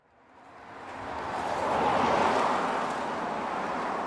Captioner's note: street noises